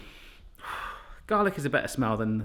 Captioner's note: blowing